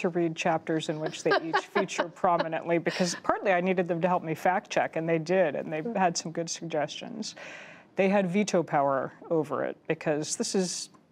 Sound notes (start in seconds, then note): 1.0 laughter